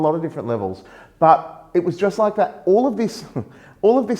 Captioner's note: chuckles